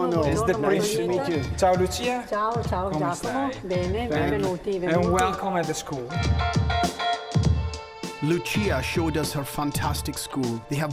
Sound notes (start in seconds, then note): 3.3 speaking Italian; 6.3 mellow funky music